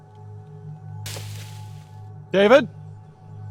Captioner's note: leaves rustling